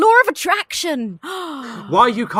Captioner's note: gasps